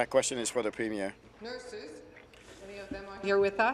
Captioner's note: speaking in French